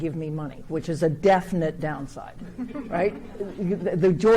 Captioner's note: audience chuckles